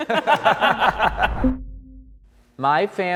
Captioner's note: people laughing